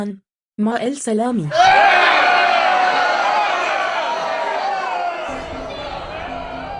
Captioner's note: booing